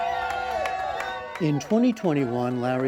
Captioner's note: cheering